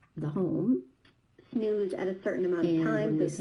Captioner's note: other video playing in background